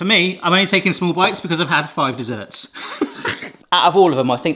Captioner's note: laughs